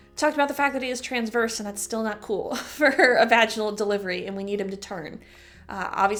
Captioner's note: chuckle